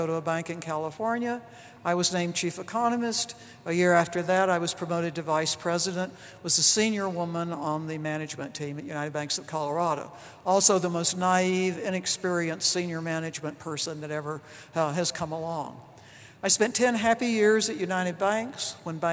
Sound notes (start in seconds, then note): none